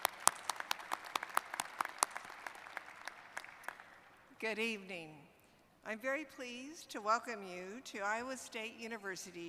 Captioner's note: applause